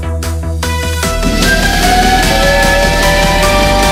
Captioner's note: train whistles